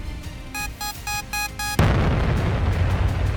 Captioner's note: bomb beeping; bomb exploding